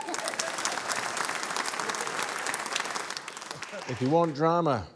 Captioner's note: cheering, applause